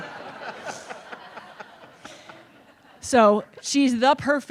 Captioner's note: audience laughing